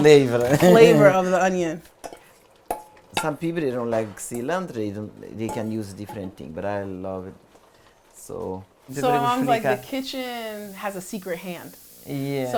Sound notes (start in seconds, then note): 8.2 speaking portuguese